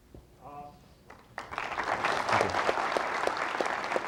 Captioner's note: applause